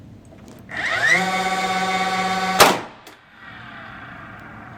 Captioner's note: drill revving